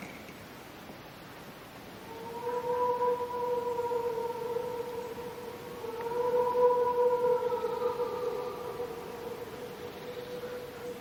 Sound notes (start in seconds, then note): 2.0 howl